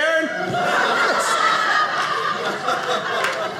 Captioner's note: audience laughing